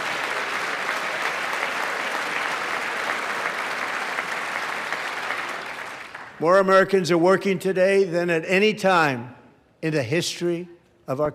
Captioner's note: applause